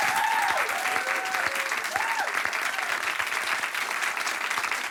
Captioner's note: everyone applauding